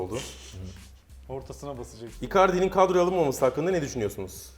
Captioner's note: giggles